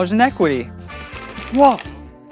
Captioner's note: calculator clicking